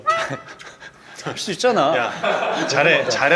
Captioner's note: chuckles